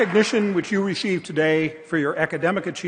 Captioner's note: applause